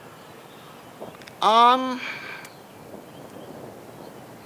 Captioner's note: wind whooshing